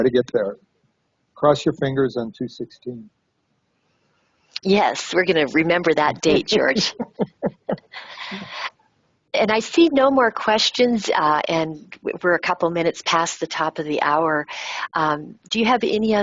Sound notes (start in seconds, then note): 6.1 laughing